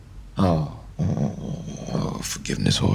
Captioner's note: grumbling